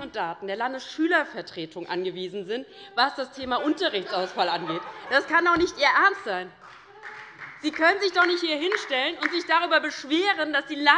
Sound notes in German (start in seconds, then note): 6.6 Beifall bei der LINKEN und der SPD